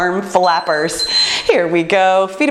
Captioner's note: timer beeps